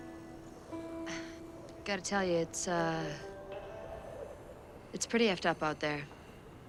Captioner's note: none